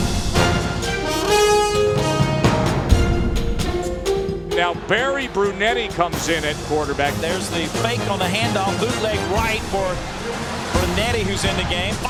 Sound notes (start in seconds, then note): 4.5 voiceover; 7.5 voiceover